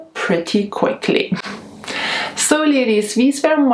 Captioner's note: chuckling